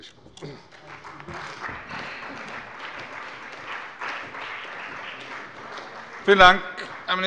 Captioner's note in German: Beifall bei der CDU und dem BÜNDNIS 90/DIE GRÜNEN